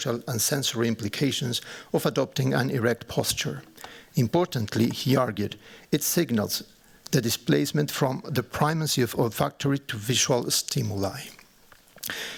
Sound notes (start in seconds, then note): none